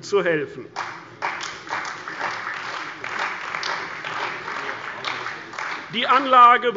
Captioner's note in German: Beifall bei der CDU und dem BÜNDNIS 90/DIE GRÜNEN